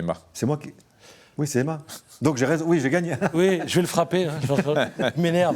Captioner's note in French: rires